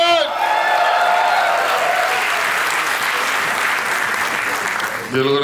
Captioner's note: crowd applauding